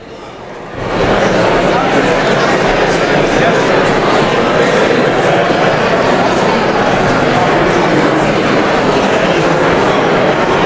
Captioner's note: indistinct chatter